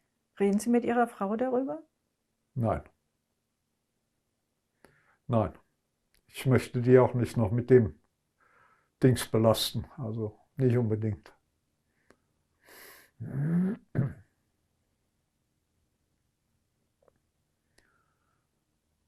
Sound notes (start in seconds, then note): 13.2 coughing; 14.2 pauses 13 seconds